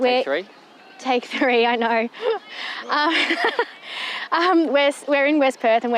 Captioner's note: laugh